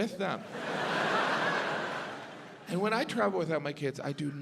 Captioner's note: audience laughs